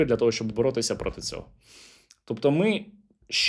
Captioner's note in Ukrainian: сопіння